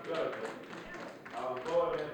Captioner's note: audience clapping